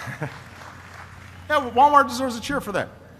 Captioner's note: applause